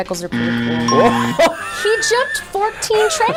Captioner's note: laughing